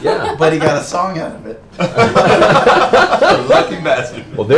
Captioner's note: laughs